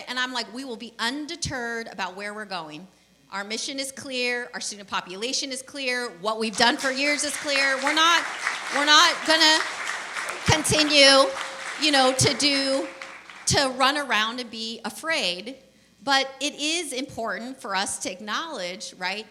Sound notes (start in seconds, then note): 8.4 applause